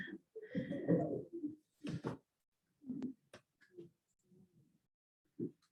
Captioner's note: indistinct chatters